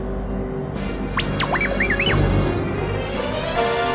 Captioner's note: R2-D2 beeps